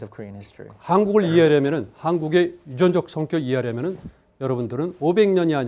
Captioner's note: speaking in Korean